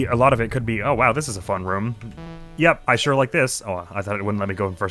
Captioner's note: error sound